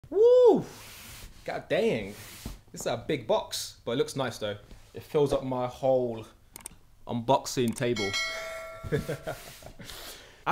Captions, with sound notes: - Woo! God dang! This is a big box, but it looks nice, though. It fills up my whole unboxing table. (bell rings) (laughs)